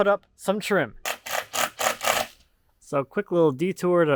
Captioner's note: drill clicking